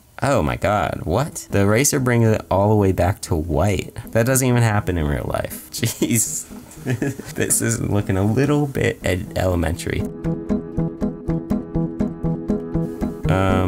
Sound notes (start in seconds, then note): 6.7 laughs